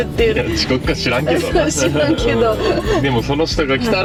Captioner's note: laughs